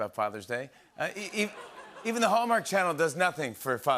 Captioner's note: laughter